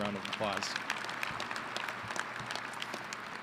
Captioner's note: applause